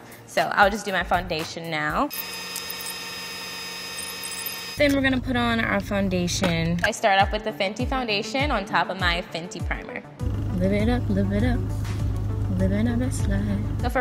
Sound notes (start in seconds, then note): 2.1 fast forwarding sound